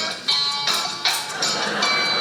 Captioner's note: audience laughing; rings click; audience laughing